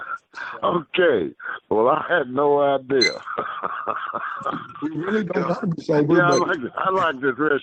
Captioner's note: laughter; laughter